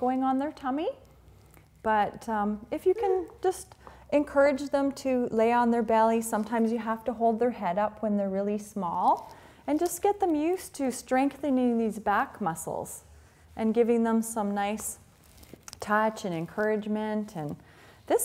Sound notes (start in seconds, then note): none